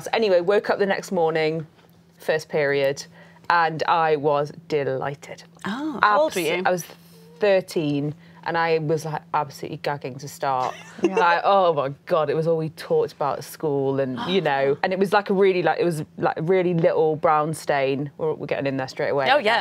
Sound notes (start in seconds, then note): 10.6 laughs